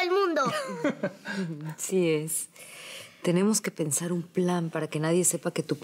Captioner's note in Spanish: Risas